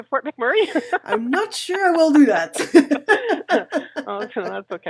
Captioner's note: laughs; laughs